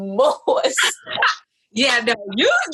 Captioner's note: laughs